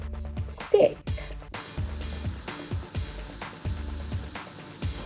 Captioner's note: water rushes